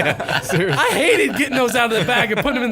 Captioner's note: laughing